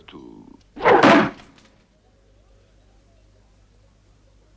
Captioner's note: knife thuds